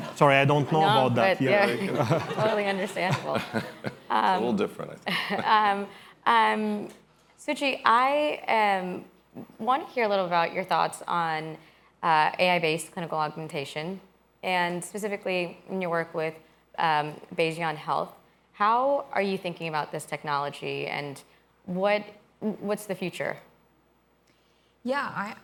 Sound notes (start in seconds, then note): 4.7 laughter